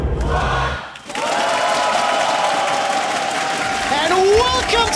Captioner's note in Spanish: Aplausos